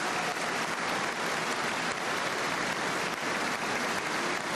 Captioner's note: cheers and applause